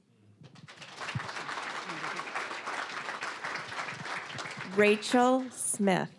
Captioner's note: applause